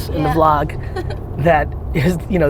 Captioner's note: woman laughs